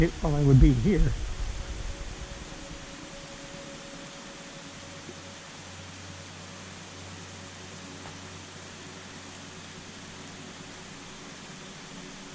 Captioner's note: rain